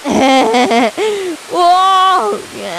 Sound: laughing

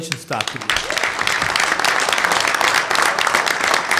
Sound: clapping

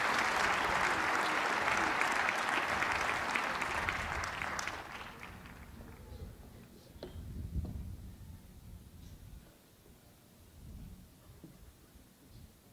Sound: applause

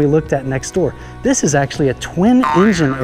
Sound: label boinging

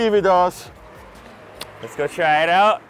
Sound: kissing

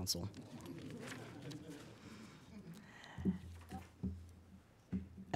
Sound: audience laughing

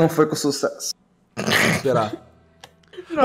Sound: laughing

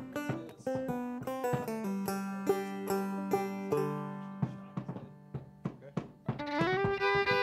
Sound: soundcheck with Background Chatter

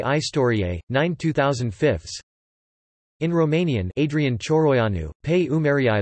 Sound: in Romanian

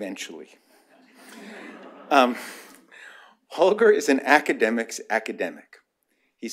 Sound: laughter

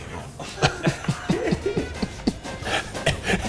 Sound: laughs

